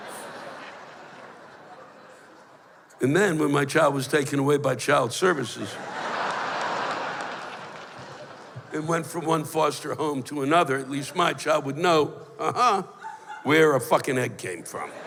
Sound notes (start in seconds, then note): 5.6 laughter; 14.7 laughter